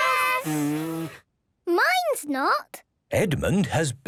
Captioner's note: blowing, fluttering; blows